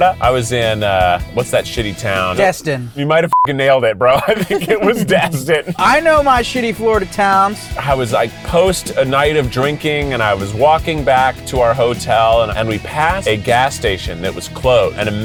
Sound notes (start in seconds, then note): 3.3 beeps; 4.0 laughs